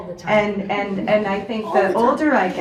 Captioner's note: audience laughs